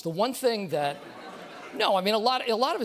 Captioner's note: laughter